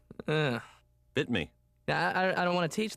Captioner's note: groans